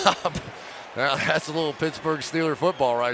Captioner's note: chuckles